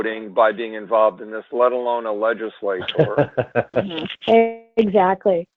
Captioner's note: man laughs